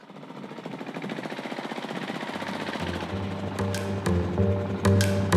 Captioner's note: motorcycle engine